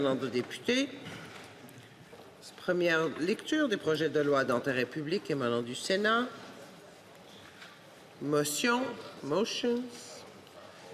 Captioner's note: speaking French